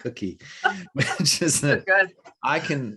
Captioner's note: laughter